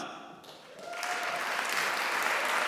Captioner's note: applause